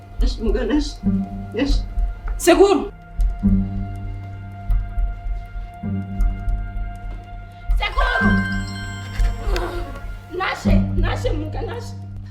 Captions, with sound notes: Nashe, wake up please... Uncle! [suspenseful music] Uncle!! [phone rings] Nashe! Wake up Nashe, wake up!